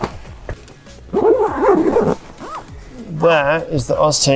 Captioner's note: bag zipping closed